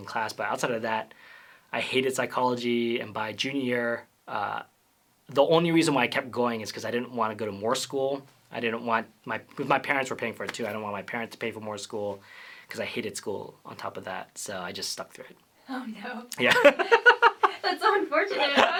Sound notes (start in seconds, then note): 16.4 laughter